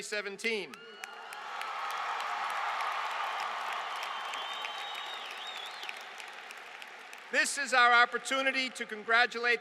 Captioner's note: applause